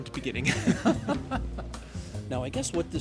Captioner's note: both laughing